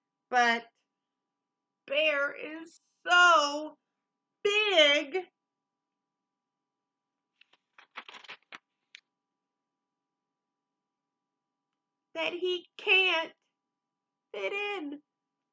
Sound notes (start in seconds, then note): none